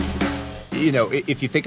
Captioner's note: laughs